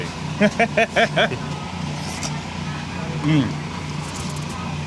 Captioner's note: group laughing